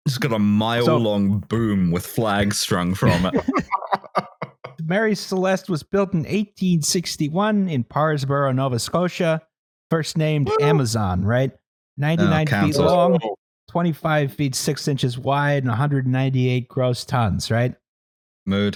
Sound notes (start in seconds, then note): 2.9 laughter